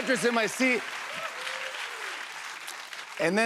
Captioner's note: cheers and applause